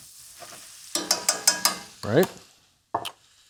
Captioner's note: butter sizzling; pan clanking